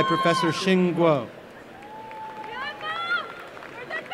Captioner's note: applause and cheering